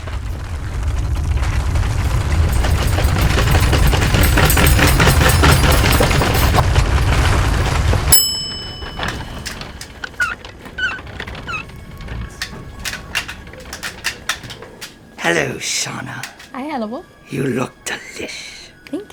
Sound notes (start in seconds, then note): 0.1 plates clattering; 0.1 table clattering; 8.1 bell dings; 10.4 wheels squeaking